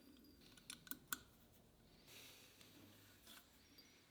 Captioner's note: metal clicks